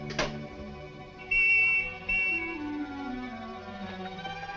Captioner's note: police whistle blowing